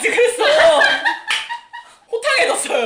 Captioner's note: laughing